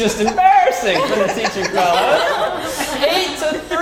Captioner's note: laugh